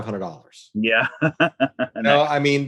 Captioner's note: laughs